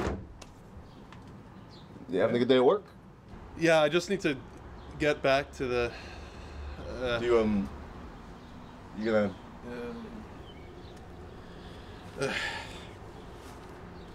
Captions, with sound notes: You having a good day at work? Yeah, I just need to get back to the… Do you, um… You gonna… [sighs]